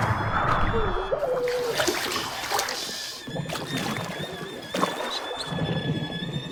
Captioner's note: grunts; gasping; water bubbles